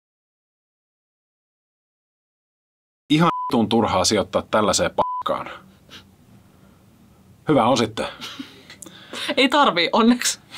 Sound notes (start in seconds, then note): 3.2 beep